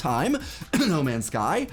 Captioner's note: coughs